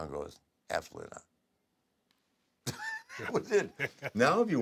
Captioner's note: laugh